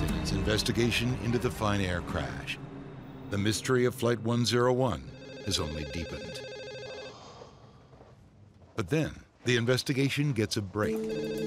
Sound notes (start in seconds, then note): 4.9 phone rings